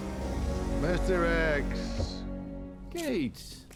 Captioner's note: scottish accent